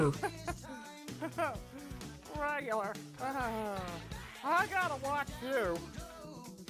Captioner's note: laughing; chuckling